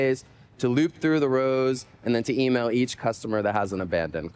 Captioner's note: spanish